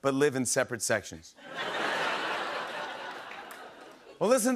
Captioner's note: laughter